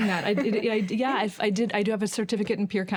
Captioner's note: chuckles